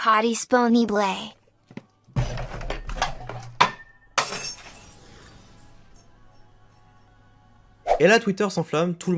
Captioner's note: Sardoche breaks a glass